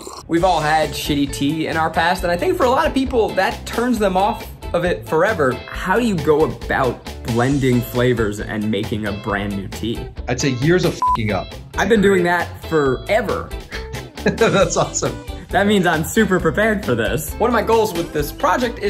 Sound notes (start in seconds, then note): 0.0 woman slurping; 11.0 beeps; 13.7 laughs